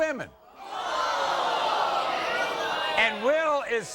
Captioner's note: crowd gasping